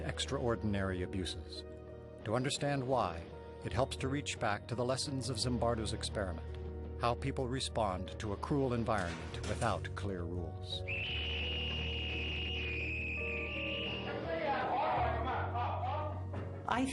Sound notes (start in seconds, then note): 10.8 eerie music; 11.0 screaming